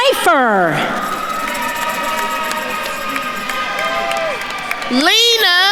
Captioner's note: attendees cheering and applauding